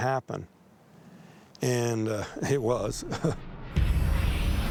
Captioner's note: chuckles